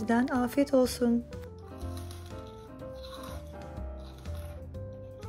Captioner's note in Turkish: çiğneme sesi